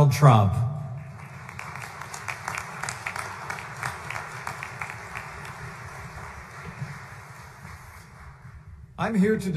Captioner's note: applause